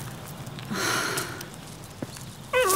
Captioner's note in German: Genervtes Seufzen; Winseln